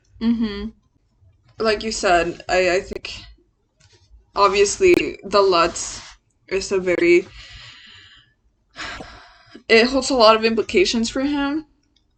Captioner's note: sighs